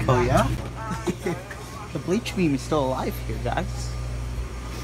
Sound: giggles

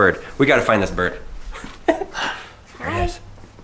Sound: gasp

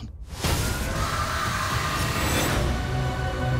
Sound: screams

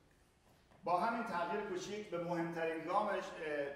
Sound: speaking in farsi

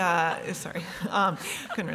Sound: chuckles

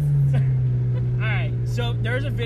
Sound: chuckles

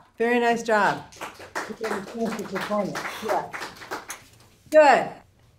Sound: applause

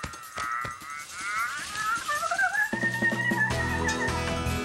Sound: message becomes garbled

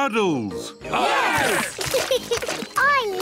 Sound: cheering; laughs

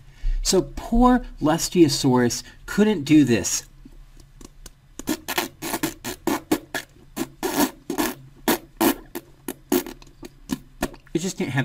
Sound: pop cheeks

